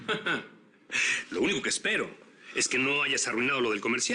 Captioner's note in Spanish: Risas